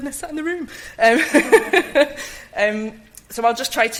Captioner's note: light chuckle